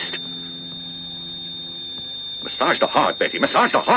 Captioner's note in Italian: segnale acustico fisso